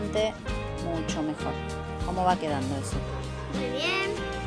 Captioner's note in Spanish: voz de niño